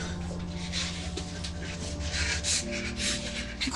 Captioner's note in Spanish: Respiración acelerada